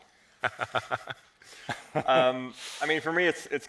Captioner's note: presenters laughing